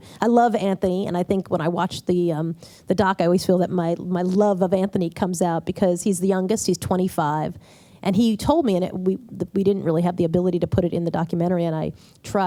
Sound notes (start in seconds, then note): none